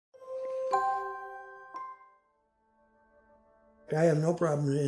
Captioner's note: gentle chiming